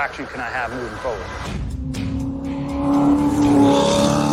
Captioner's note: engine rumbling